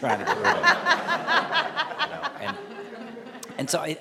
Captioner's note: laughing